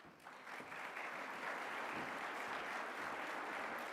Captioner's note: applause